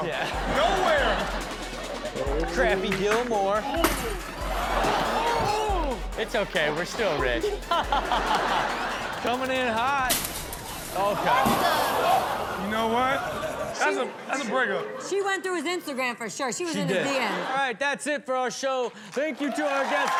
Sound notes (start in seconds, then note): 0.0 all laugh; 4.0 audience laughs; 4.0 glass shatters; 5.5 men oohing; 7.8 laughing; 10.3 glass shatters; 10.4 audience oohs